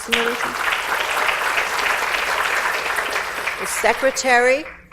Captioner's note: audience applauds